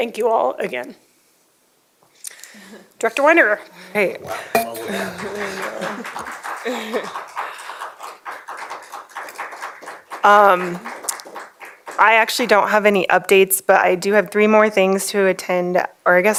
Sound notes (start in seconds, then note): 7.6 applause